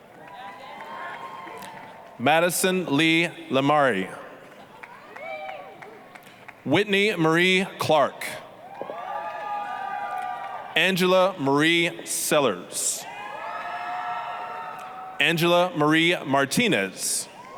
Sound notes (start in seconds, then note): 0.0 applause, cheering; 4.4 applause, cheering; 8.6 applause, cheering; 13.1 applause, cheering